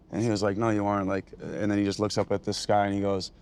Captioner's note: none